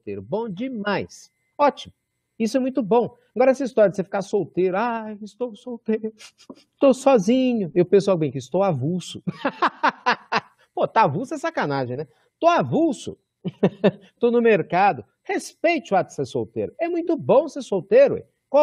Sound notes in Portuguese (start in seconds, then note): 9.2 risos